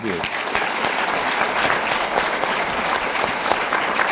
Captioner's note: audience applauding